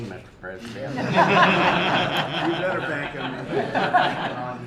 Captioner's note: laughter